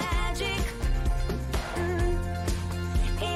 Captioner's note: humming